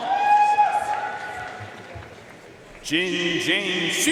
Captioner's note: audience cheering and applauding